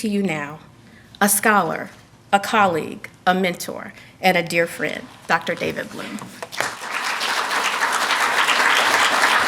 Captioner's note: applause